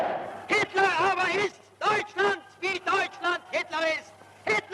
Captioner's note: speaking German